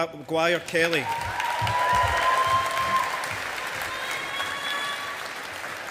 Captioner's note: audience applauding